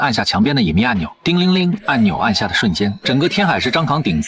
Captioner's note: ding-a-ling!